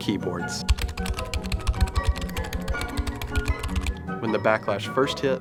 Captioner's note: typing clicks